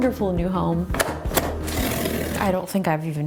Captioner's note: box ties snapping; cardboard ripping